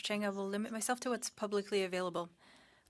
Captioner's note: speaking French